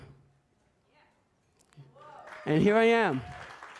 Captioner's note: audience applauds; audience cheers